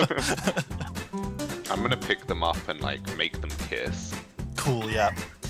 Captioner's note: laughter